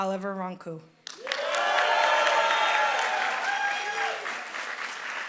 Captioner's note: applause